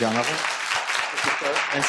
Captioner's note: applause